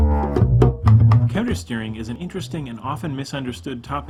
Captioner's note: voiceover